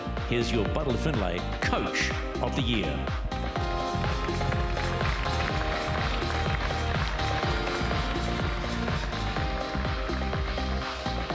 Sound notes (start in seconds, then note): 3.6 applause; 6.0 upbeat music continues